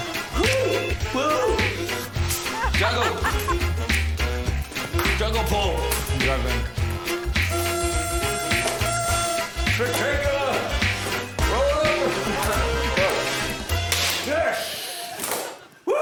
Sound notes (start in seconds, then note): 7.4 blows party horn; 12.9 laughs; 13.9 whip cracks